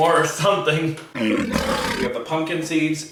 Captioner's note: lion roaring